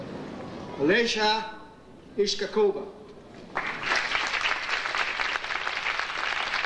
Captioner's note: audience applauding